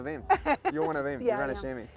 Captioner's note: laughs